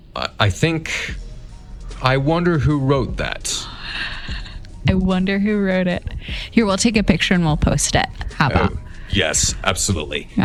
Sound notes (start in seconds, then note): 3.4 giggles